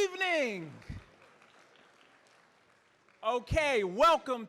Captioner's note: audience clapping